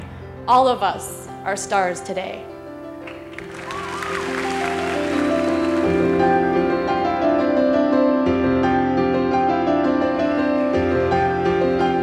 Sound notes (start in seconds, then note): 3.0 applause; 5.6 emotional piano music